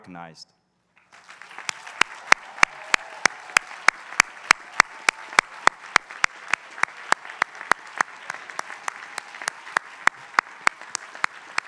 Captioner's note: applause